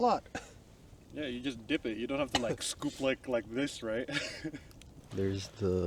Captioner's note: laughs